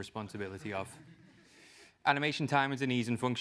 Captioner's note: laugh